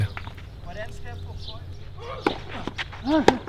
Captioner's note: foreign Language